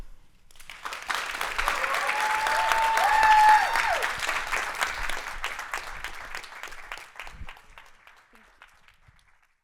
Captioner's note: clapping